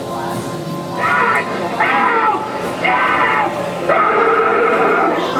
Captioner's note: bleating of goat; screams and growls